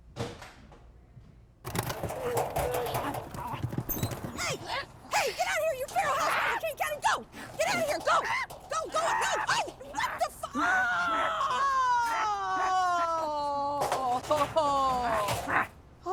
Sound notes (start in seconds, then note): 1.6 feral devouring